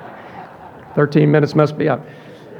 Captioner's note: audience laughing